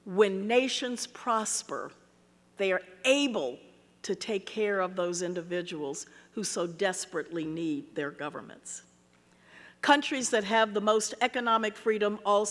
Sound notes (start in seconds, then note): none